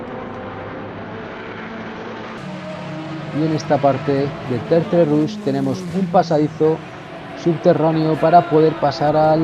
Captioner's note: motors